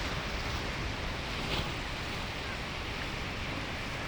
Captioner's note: water rushing